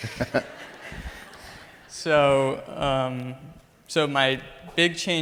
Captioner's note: Dr. Dispenza laughs